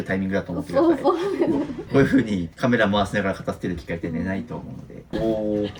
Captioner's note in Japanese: 笑い